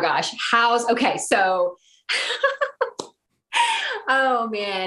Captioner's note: laughing